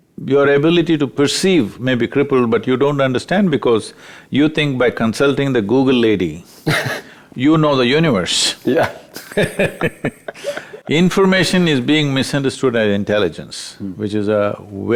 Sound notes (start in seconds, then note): 6.6 laughs; 8.8 both Laugh